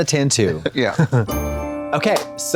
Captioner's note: bright chime